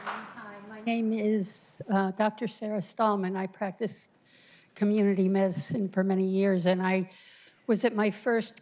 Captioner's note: applause